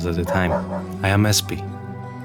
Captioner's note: Pavlov's dog barking